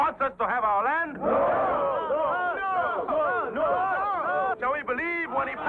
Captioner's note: crowd clamors and chants "NO"